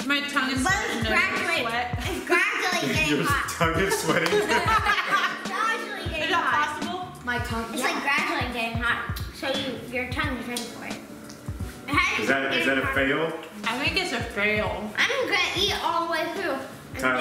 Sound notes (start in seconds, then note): 3.5 laughs; 3.7 all laugh